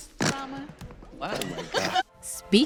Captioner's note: laughing